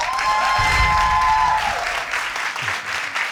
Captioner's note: all cheering